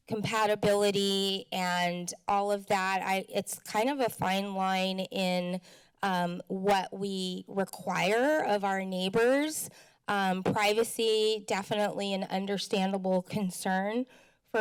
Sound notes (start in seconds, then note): none